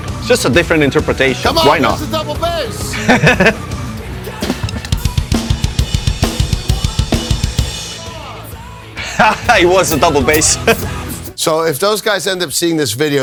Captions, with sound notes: It's just a different interpretation. Why not? [laughs] [laughs] It was a double bass.